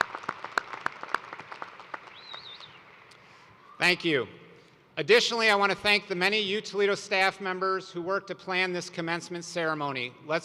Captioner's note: cheers and applause